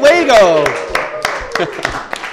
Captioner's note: applause